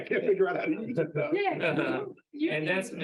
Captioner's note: laughing